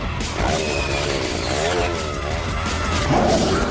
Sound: chainsaw whirring

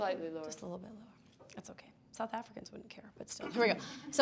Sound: speaking faintly

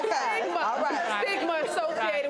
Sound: laughing

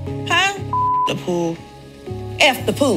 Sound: beep

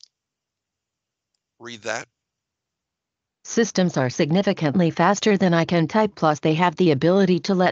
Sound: computer speaking

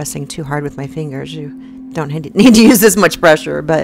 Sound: woman laughing

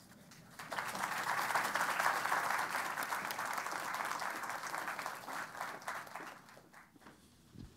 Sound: applause

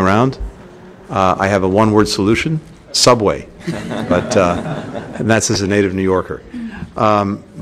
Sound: laughter

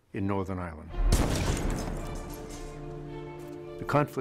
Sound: sounds of explosions, civil unrest

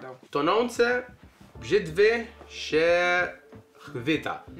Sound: speaks Polish

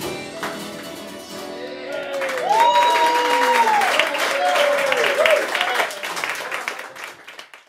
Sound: wild applause and cheering

